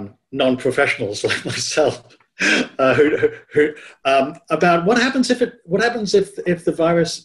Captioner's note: chuckles